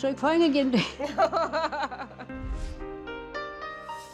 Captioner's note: laughter